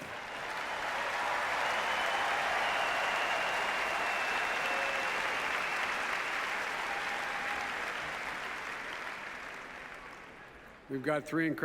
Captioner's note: applause